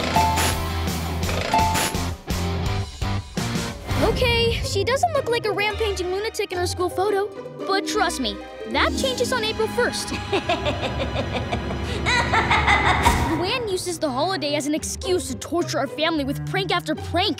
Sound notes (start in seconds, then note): 10.1 laughing